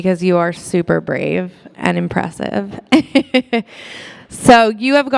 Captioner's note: laughs